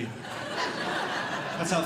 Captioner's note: audience Laughing